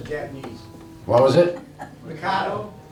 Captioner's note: laughing